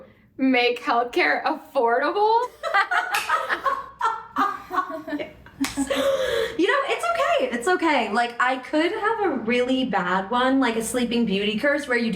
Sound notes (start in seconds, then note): 2.6 BIG laughs; 4.6 nervous laugh